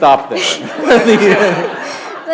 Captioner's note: laughter